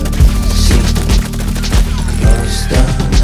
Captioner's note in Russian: стрельба; звук попадания